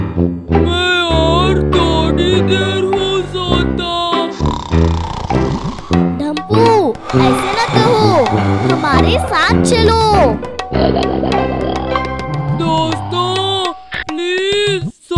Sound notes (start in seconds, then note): 4.3 snoring